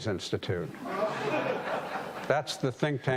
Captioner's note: audience laughing